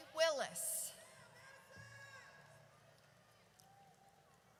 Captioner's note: audience cheers